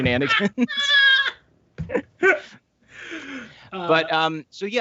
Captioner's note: laughing